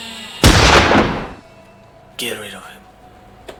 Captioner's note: gunshot booming